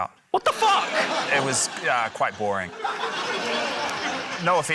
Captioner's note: laughter